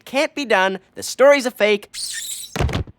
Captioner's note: squeaks down the wall